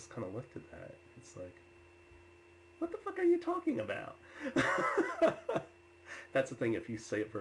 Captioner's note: laughs